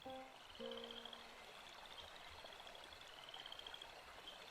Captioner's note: literally crickets